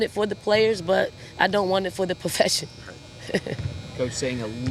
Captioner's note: laughs